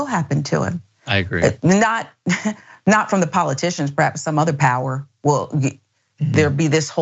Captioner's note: laugh